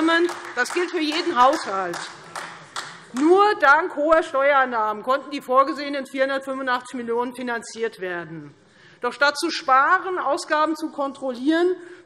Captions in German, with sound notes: und das gilt für jeden Haushalt. [Beifall Freie Demokraten] Nur dank hoher Steuereinnahmen konnten die vorgesehenen 485 Millionen € finanziert werden. Doch statt zu sparen und Ausgaben zu kontrollieren,